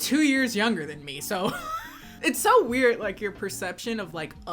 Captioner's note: laughs